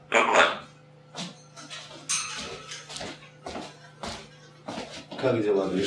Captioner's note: footsteps